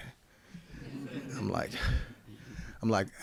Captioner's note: audience laughing